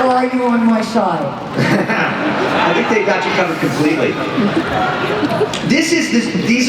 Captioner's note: laughs